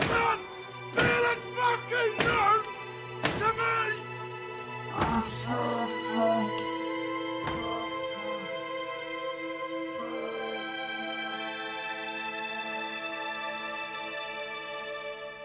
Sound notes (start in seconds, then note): 4.9 distorted voice; 11.6 dramatic music plays